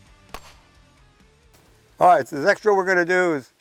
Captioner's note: gunshot fired